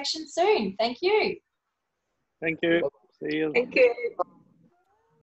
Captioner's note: thank you in unison